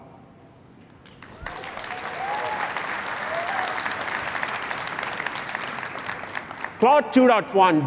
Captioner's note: applause